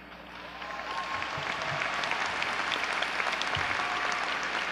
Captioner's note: audience cheering